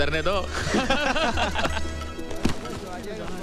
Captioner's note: Laughs